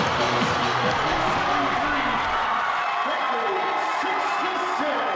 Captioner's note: crowd cheering